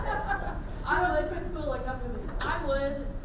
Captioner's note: laughing